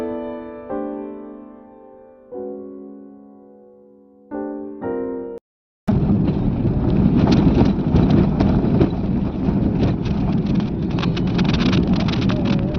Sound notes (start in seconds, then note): 5.9 sound of friction between dusty off-road and tyres